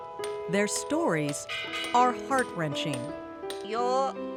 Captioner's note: speaking spanish